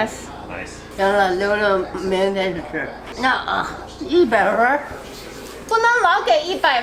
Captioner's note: grandma speaking Chinese; speaking Chinese